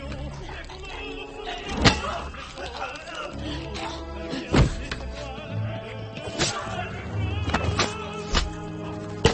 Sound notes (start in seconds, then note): 5.8 knife slicing